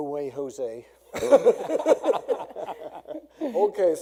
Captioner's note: laughing